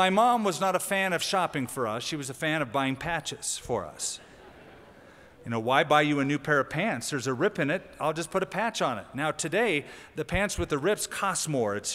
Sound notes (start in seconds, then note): 4.2 laughter